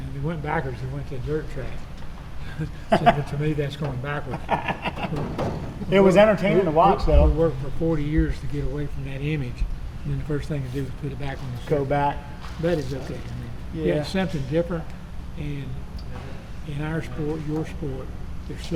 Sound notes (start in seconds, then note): 4.2 chuckling; 4.6 laughing